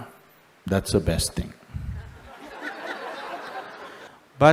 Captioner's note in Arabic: ضحك